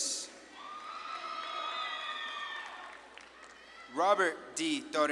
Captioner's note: audience claps and cheers